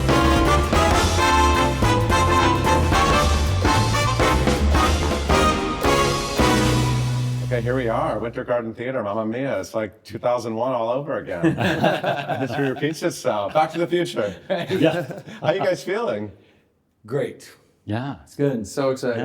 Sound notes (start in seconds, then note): 0.0 lively upbeat music; 11.4 everyone chuckling